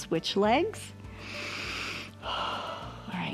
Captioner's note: inhales and exhales